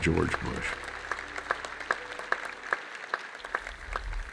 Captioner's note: audience applauding